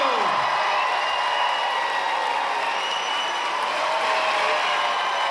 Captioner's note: cheering